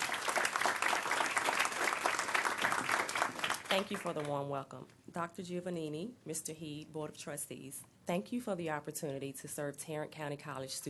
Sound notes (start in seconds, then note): 1.6 applause